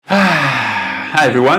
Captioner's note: sighs